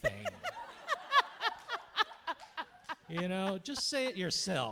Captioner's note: audience laughing